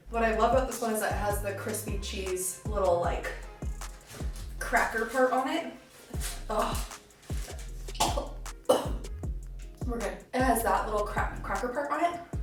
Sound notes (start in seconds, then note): 8.6 coughs